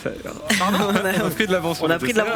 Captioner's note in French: rires